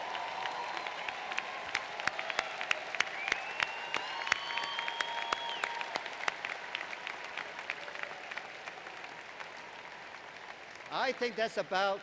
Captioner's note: applause